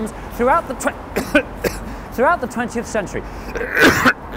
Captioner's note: cough; cough cough